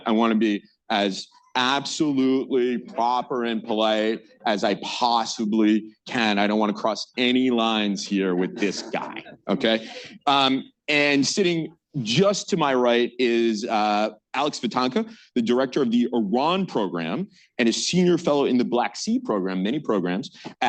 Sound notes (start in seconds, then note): 8.2 laughter